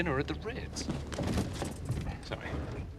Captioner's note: gemerincing